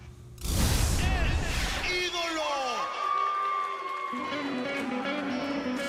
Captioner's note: cheers and applause